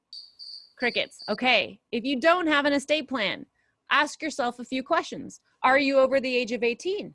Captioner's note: crickets